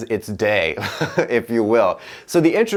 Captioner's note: laughing